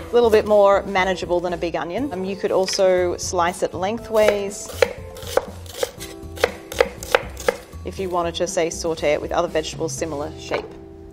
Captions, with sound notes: a little bit more manageable than a big onion. You could also slice at lengthways. [knife tapping against wooden board] If you wanna just, say, saute it with vegetables, similar shape.